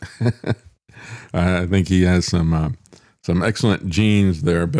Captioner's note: laughing